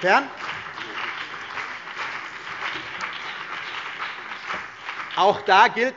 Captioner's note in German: Beifall BÜNDNIS 90/DIE GRÜNEN und vereinzelt CDU